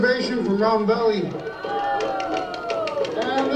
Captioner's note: shouting